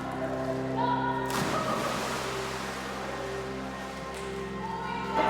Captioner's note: water splashes